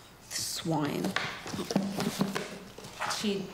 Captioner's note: book clattering